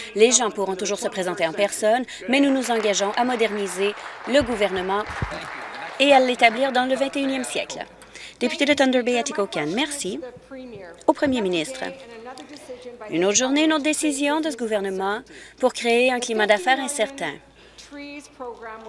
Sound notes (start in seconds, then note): 7.5 applause